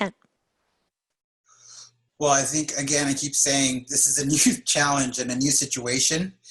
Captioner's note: laugh